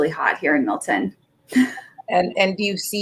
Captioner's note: laughs